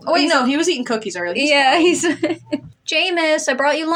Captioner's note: laugh